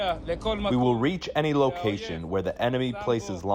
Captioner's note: through translator